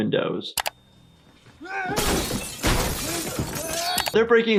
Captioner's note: glass breaking